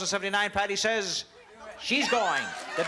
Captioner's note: cheering and applause